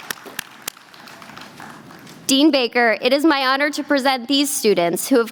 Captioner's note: applause